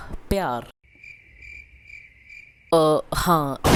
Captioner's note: awkward Silence